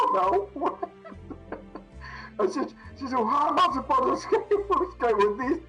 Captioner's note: laughs